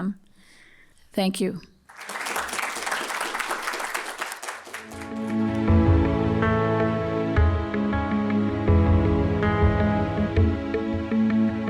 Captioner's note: applause